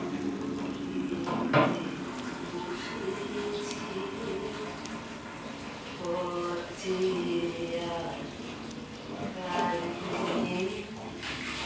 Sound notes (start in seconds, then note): 1.7 Chaiti humming a song in the bathroom